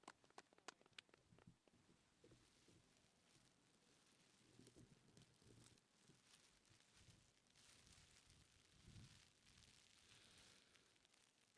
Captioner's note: applause